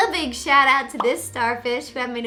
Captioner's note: bubble pops